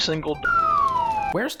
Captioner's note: slide whistle sound effect